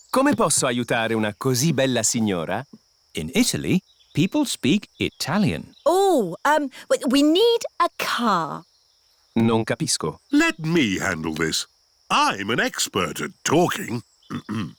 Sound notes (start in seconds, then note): 0.2 speaks italian; 9.5 replies in italian